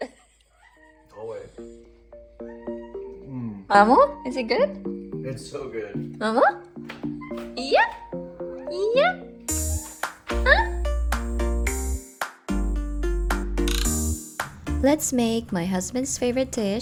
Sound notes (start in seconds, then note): 0.0 chuckles; 2.4 Mammu meowing on the background; 7.2 cat meow